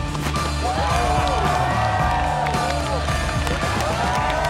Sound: cheering

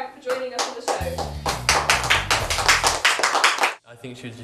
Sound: applause

